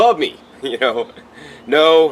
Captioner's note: laughs